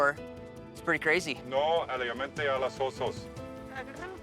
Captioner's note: speaks in Spanish; person speaking in Spanish